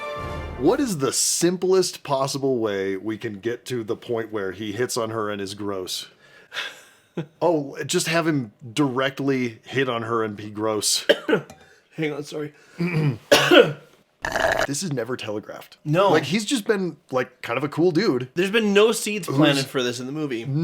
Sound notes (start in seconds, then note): 11.0 coughs; 12.8 coughs, slurps